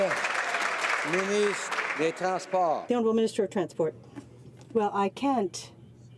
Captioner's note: some Applause